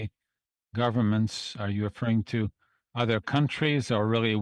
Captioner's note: speaking French